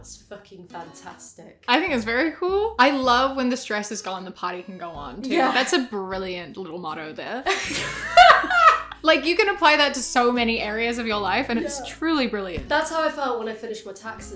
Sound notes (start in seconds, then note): 7.4 both crack up